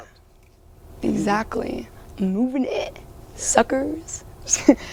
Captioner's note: laughs